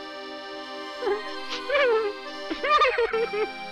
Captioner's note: sobbing